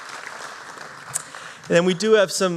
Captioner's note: applause